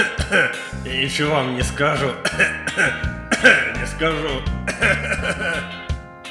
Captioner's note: coughs